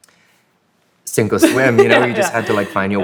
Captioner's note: laughs